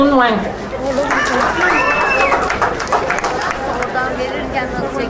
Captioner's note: crowd applauding